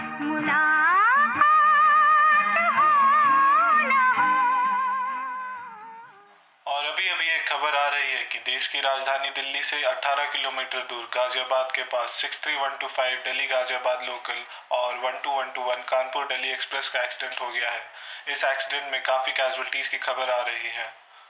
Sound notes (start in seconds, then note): 6.7 radio Chatters